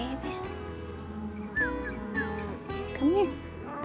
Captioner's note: says softly; whistles softly